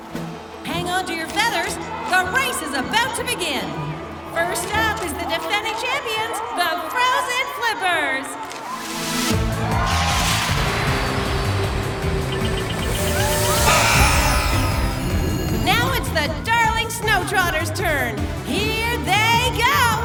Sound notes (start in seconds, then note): 0.0 exciting music; 8.4 crowd cheering; 8.4 exciting music; 13.4 buzzer blares; 19.8 crowd cheering; 19.8 exciting music